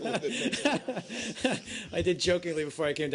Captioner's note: laughter